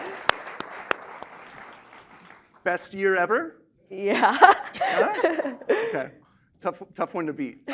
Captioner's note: laughter